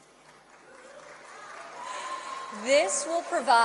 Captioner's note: applause